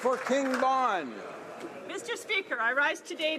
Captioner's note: some Applause